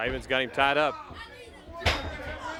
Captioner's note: crowd cheering